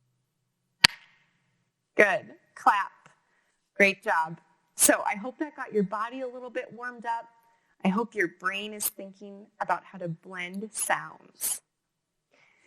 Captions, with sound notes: (claps hands) Good, clap. Great job. So I hope that got your body a little bit warmed up, I hope your Brian is thinking about the blended sounds.